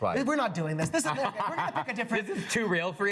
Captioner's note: laughs